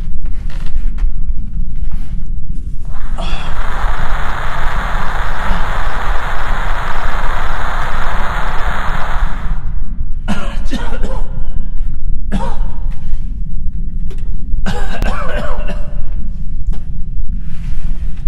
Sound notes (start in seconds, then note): 2.8 static crackling; 10.5 coughing